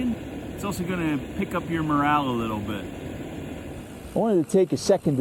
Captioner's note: mountain bike whirring, gravel crunching